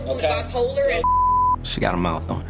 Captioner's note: beep